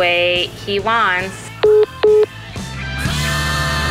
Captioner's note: phone message beeping; rock music ends